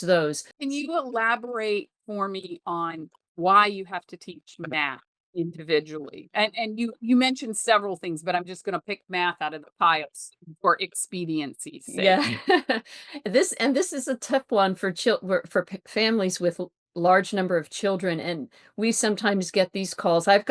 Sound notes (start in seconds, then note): 11.9 chuckles